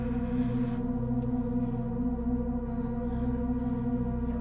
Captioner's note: insects chirping